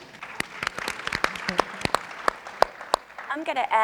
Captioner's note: audience and panelists applauding